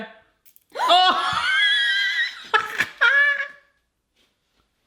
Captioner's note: cracks; yells; laughing